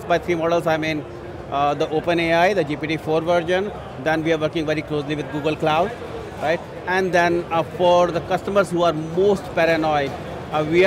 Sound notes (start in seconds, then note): none